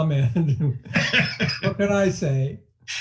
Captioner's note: laughing